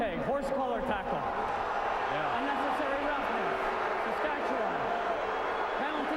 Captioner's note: cheering